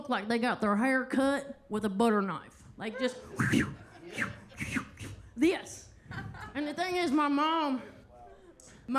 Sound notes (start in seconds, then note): 4.1 whistles; 6.0 attendees laughing; 6.1 attendee laughing